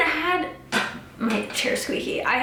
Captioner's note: chair squeaks